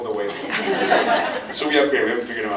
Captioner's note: laughs